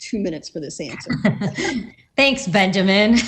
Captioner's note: laugh